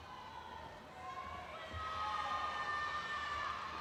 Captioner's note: audience cheers